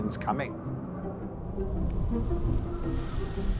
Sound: rugido de viento

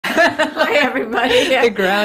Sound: both laughing

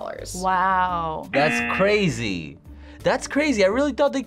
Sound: buzzer

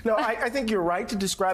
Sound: laughter

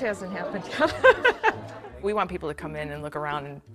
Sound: laughs

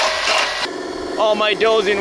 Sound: engine chugging

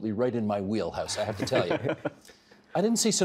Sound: others laughing

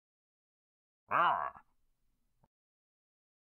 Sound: Frankenstein groan

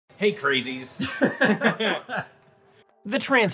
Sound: laughing

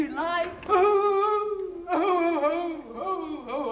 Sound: sobbing

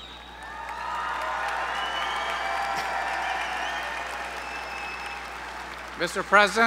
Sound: applause

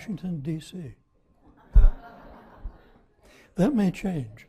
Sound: audience laughing

